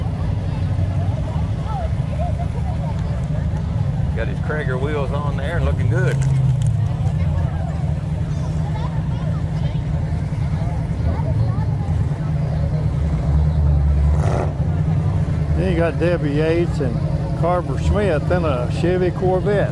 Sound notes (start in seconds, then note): 0.3 people chatter; 0.3 revving continues; 7.4 people chatter; 7.4 revving continues